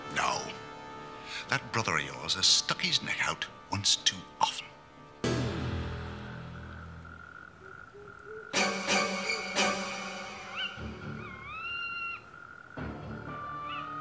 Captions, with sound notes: - No, that brother of yours has stuck his neck out once too often. (frogs croaking) (suspenseful music)